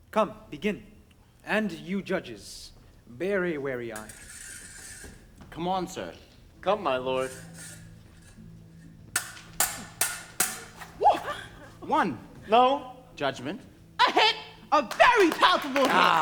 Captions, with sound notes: Come, begin, and you, judges, bear a wary eye. - Come on, sir. - Come, my lord. (solemn music) (swords clang) - One. - No. - Judgment. - A hit, a very palpable hit.